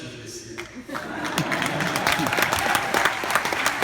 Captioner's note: applause and laughter